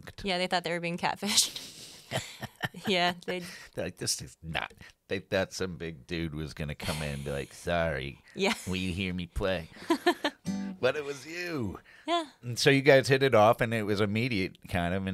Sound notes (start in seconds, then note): 1.9 laughs; 9.8 laughs